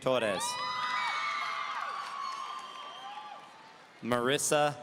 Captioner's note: audience cheering